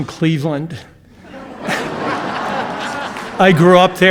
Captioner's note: audience laughing